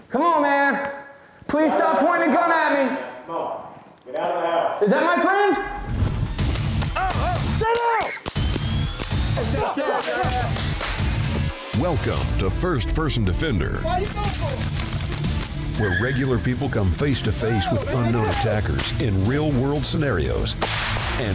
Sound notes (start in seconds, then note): 5.8 intense music; 8.0 gunshots; 9.4 muffled yelling